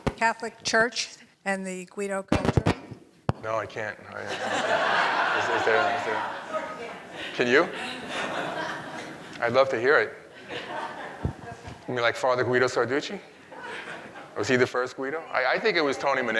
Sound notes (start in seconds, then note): 4.1 audience laughing